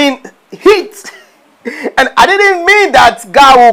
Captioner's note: laughing